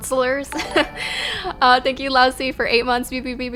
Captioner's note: notification tingling